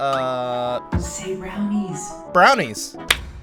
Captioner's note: whispering